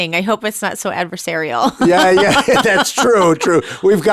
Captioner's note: laughing